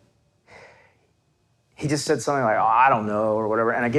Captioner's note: exhales loudly